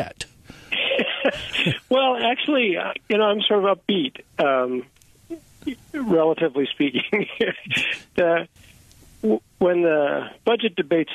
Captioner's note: laughter